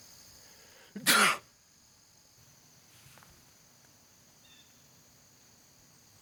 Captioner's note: a sneeze, insects